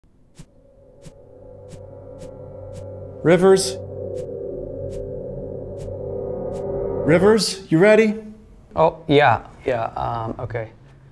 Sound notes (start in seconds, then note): 0.3 swiping sounds; 3.7 swiping sounds continue